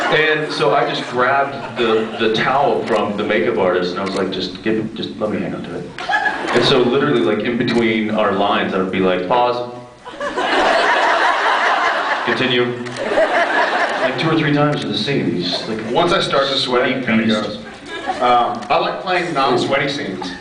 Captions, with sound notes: And so I just grabbed the -- the towel from the makeup artist and I was like, “Just give -- just let me hang onto it.” [scattered laughs] And so literally like in-between our lines I would be like, “Pause.” [laughs] “Continue.” [laughs] I mean two or three times in the scene, he’s like... Once I start to sweat, it kinda goes. sweaty beast. Um... I like playing non-sweaty scenes, Ooh.